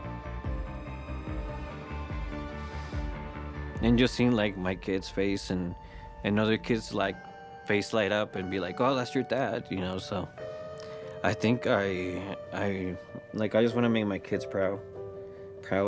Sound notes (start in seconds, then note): none